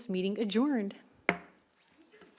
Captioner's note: gavel hitting dais